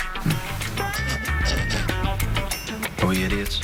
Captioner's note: snickering